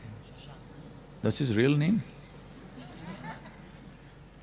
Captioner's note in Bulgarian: смях в публиката